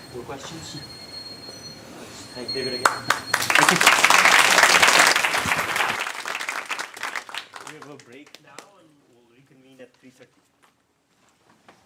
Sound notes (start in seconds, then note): 4.6 applause